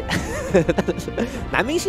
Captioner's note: chuckles